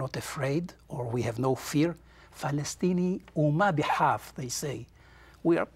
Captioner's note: in Arabic